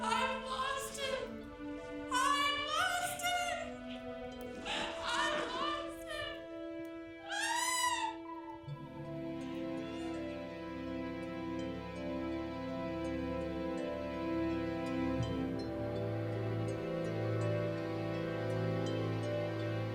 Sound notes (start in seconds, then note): 7.2 cries out; 8.6 soft dramatic music